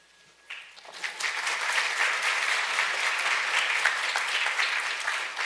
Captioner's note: audience applauds